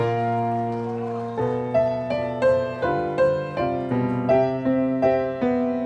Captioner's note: audience applauding; audience shouting encouragement